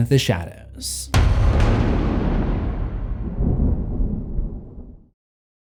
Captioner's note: thunder